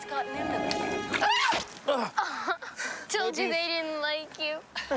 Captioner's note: Larry shrieking